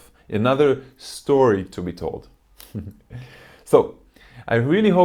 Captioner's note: chuckles